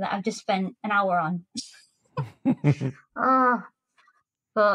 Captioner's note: giggles